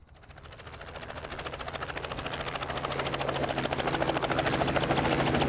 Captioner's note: helicopter blades whirring